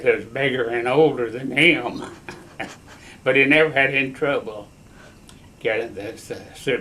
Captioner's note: laughs